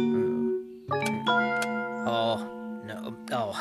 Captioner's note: click! Click!